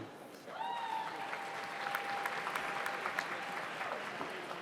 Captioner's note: audience applauds